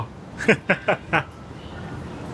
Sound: chuckles

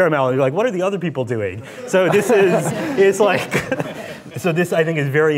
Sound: laughing

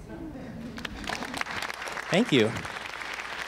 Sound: audience applauding

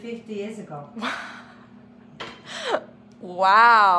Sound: laughs

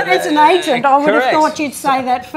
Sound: laughs

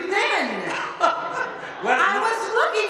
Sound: all laughing

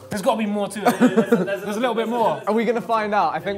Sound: laughter

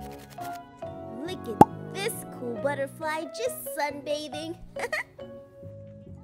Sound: laughs

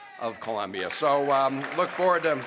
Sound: applause

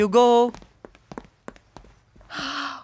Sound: footsteps

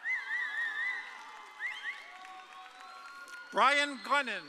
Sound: audience cheering

